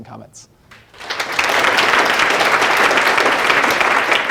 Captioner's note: applause